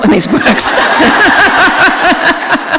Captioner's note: laughter